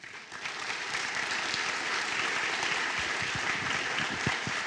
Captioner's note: applause